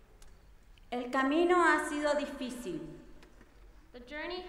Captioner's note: speaking in foreign language